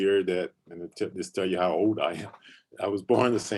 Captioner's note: chuckles